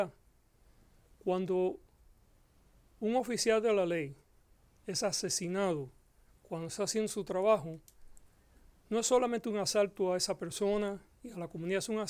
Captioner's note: Gascon speaking Spanish